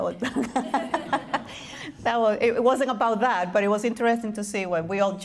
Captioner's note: laughing